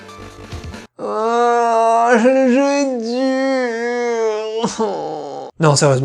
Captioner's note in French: Pleurant à moitié